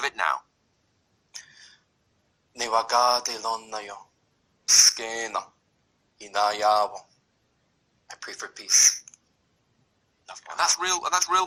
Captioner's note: prononce des paroles en langue mohawk